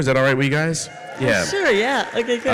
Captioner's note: audience cheers